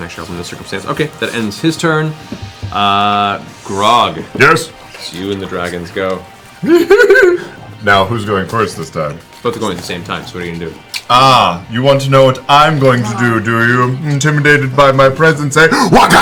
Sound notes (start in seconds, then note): 6.6 giggles